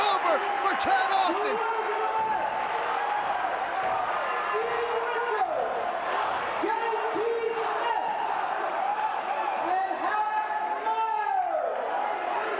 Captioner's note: crowd chatter